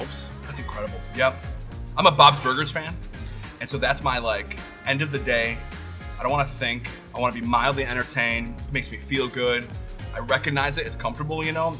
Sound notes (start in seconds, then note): none